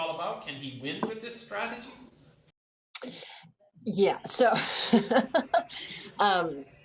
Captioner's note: laughter